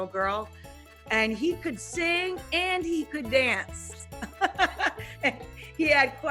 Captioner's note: laughing